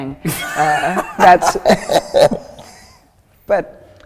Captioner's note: laughs